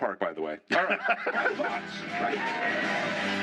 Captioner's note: laughter